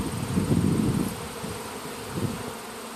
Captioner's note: bees buzzing loudly